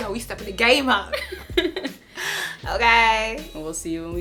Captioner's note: laughs